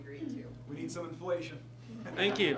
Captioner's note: laughter from audience